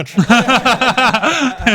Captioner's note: laughing